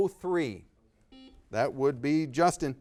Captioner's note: buzzer beeping